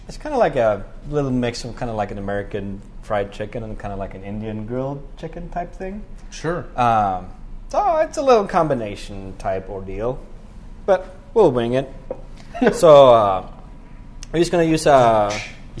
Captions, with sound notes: it's kind of like a little mix of an American Fried Chicken, and kind of an Indian grilled chicken type thing. Sure. So it's a little combination type ordeal. But we'll wing it. [CHUCKLES] So we're just going to use-- [DRUMMING]